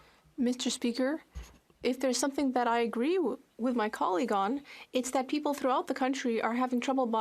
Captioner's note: speaking French